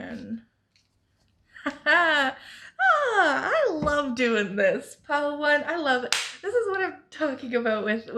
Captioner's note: claps